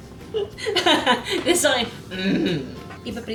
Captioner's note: laughs; grunt